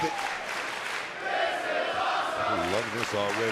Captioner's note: crowd chants "this is awesome"